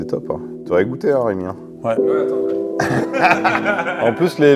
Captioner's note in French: rires